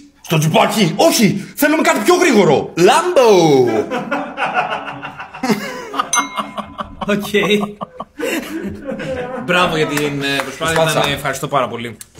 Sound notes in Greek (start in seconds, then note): 3.6 γέλια